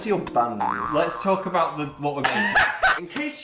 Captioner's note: laugh